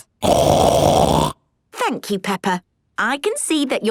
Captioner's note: loud snort